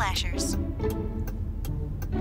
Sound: ticking

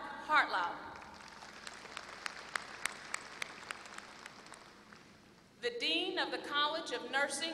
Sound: applause

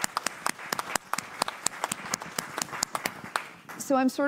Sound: applause

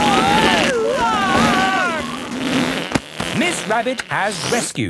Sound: screaming; crowd gasps

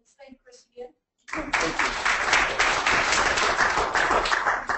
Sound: audience clapping

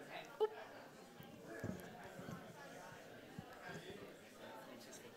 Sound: audience chatting

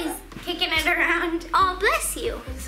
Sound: dog sneezes

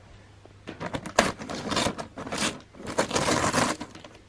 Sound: ripping sound

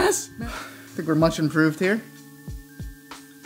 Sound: sighs

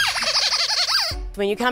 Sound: squeaker

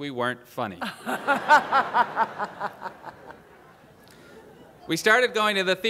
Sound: laughter

